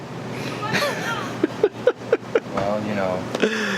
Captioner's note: laughing